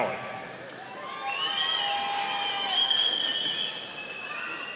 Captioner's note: audience cheering